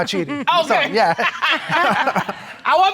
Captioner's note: judge dana chuckles